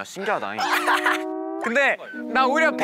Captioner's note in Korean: 꺄륵